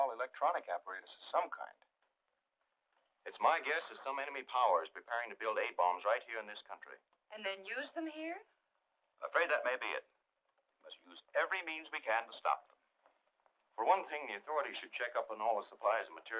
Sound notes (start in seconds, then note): none